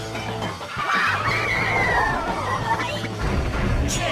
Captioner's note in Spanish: sonidos de alegría